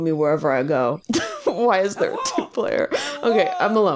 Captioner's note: laughs